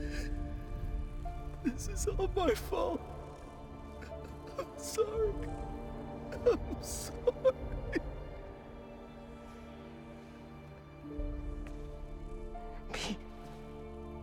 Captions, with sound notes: (sobbing) This is all my fault. I’m sorry! I’m sorry! Pete...